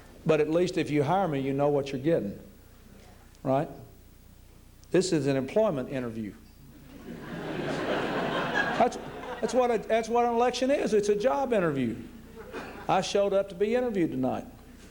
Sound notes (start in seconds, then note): 6.8 laughter